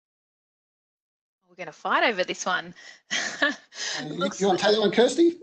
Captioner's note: laughs